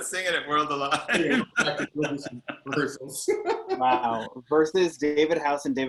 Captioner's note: laughs